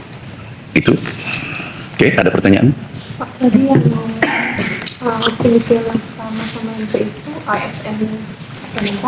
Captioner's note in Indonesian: berdehem